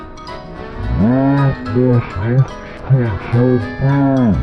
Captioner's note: slow motion voice